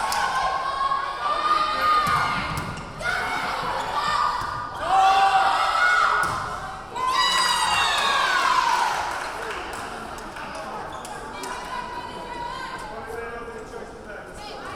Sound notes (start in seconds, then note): 6.9 cheering; 7.9 clapping; 9.6 yelling